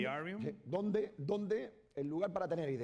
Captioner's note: speaking spanish